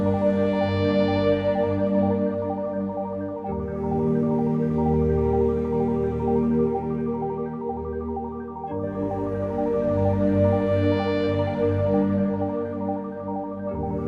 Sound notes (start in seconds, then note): none